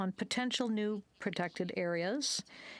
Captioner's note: speaking French